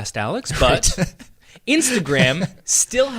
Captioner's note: laughing